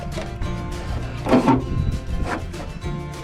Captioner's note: crunchy metal noises